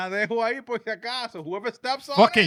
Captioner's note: speaking In Foreign Language